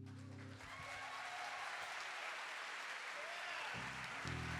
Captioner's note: audience applauding